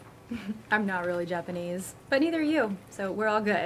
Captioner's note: chuckles